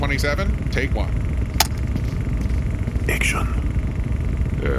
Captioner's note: click of button; whispers